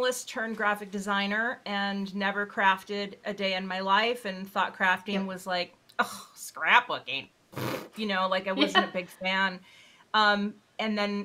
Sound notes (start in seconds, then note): 7.5 blowing raspberries